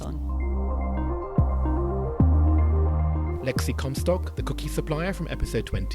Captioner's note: voiceover